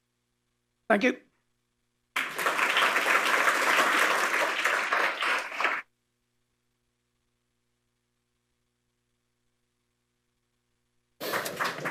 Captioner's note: applause